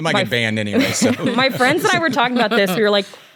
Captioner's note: laughs